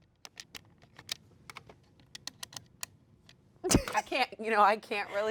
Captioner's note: controller clicks